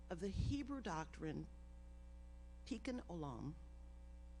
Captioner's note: none